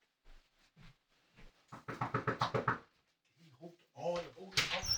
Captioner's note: knock at the door